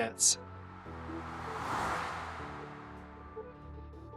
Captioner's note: air whooshes